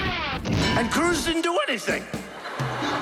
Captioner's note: cartoonish clanging; laughing